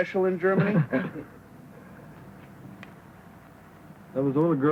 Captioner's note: laughing